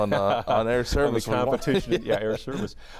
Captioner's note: laughs